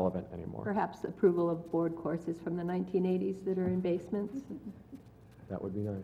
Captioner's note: laugh